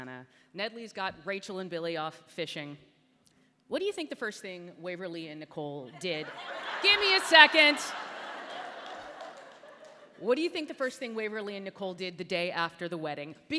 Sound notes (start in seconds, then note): 6.4 raucous Laughter